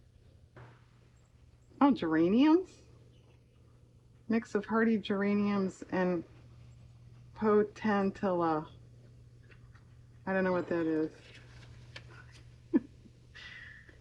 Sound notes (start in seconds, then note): 10.9 laughs